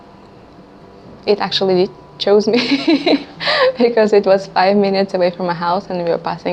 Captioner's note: laugh